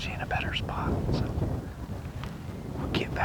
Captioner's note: wind whooshing